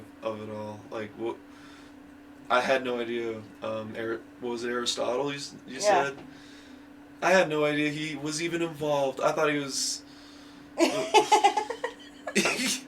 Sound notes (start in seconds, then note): 10.8 laughing